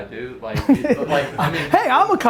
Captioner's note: laughing